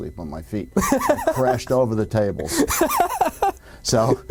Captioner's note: laughing